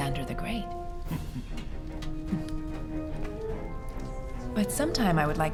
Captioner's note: Cicero chuckles